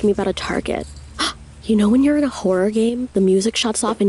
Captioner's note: gasps